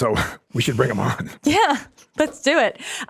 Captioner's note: laughs